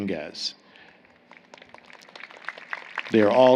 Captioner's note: applause